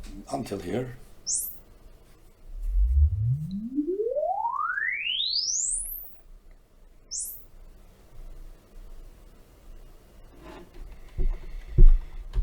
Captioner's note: sine Sweep